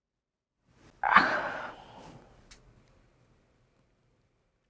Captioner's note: sighs